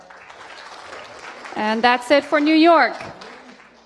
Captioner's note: applause